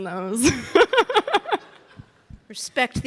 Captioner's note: Sydney laughing